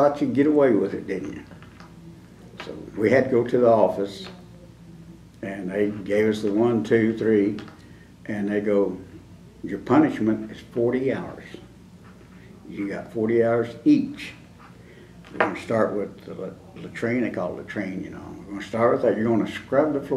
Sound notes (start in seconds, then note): none